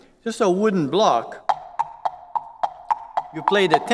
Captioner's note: taps